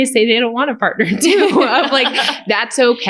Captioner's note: laughter